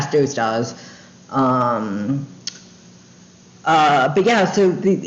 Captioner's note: tongue click